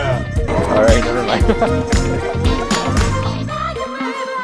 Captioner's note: laughs